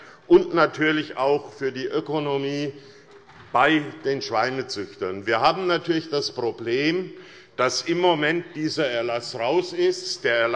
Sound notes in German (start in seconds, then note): none